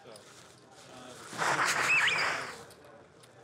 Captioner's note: blows nose